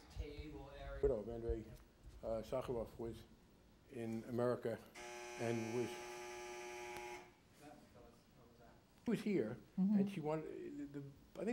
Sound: buzzing noise

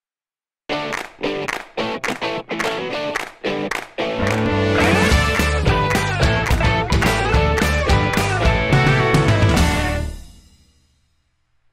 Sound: claps

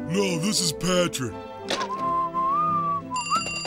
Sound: whistling; phone ringing

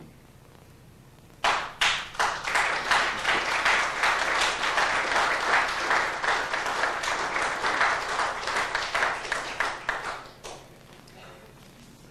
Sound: applause

